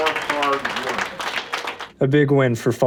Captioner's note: applause